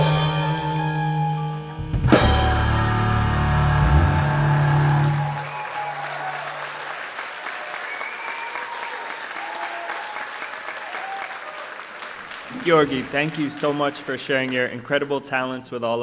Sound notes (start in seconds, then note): 3.7 applause, cheering